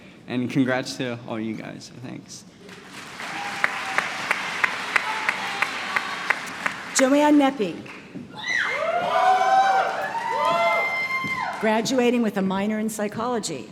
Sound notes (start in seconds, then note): 2.6 applause; 8.3 cheering